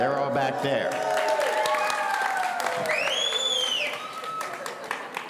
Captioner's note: audience cheering